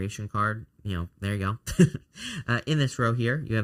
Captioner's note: chuckles